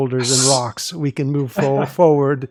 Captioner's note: makes hissing sound